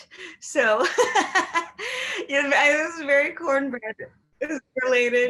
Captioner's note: laughs